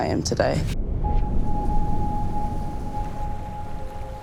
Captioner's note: wind whooshes; eerie music